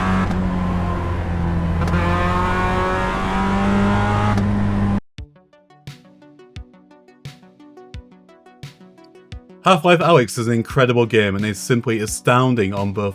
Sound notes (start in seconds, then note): 2.4 engine revving; 4.4 upbeat music